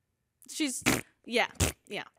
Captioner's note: makes farting noise